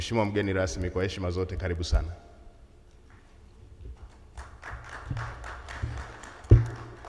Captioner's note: speaking foreign language; audience applauds